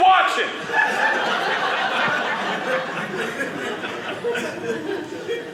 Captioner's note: audience laughing